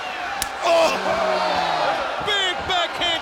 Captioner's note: Hogan screams